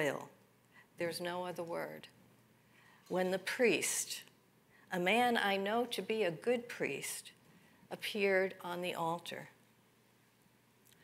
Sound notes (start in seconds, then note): none